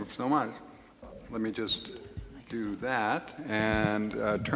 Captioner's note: speaking faintly